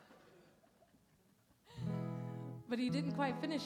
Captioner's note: laughter